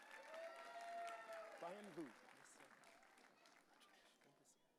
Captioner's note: audience cheering